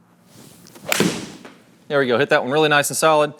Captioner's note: golf club thwacks